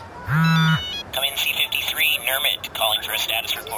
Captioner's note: pacing and repeating; communicator buzzes